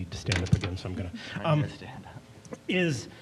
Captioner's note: chuckling